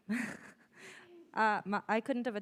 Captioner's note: laughs